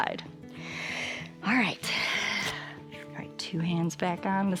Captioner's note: exhales